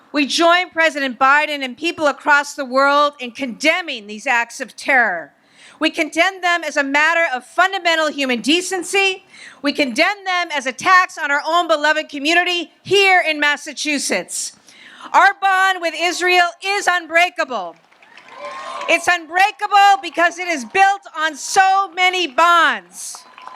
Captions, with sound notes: We join President Biden and people across the world in condemning these acts of terror. We condemn them as a matter of fundamental human decency. We condemn them as attacks on our own beloved community here in Massachusetts. Our bond with Israel is unbreakable. (audience applauds and cheers) It's unbreakable because it is built on so many bonds,